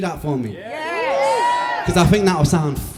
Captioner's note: cheers